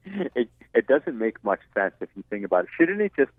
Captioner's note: voiceover